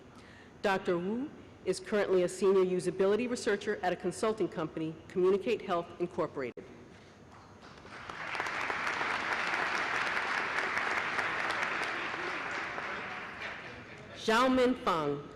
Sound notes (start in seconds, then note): 7.6 applause